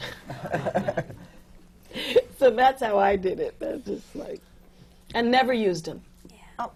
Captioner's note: laughs